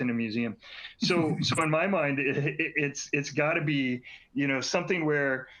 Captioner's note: laughter